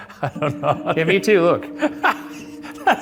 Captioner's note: laughs